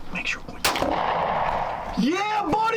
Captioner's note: gun shot sounds